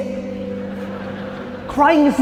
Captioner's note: audience laughing